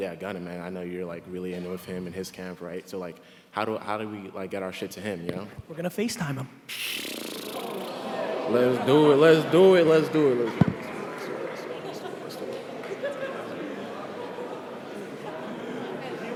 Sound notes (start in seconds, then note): 6.7 blows raspberries; 11.3 murmuring